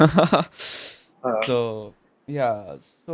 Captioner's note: laughs Ironically